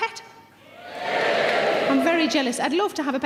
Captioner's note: audience cheers